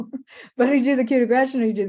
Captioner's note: chuckles